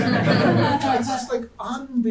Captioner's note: audience laughing